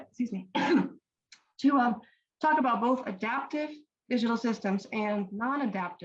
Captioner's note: coughs